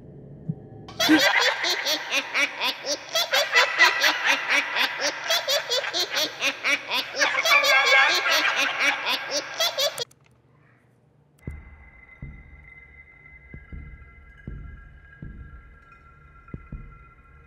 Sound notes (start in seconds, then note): 0.9 maniacal laugh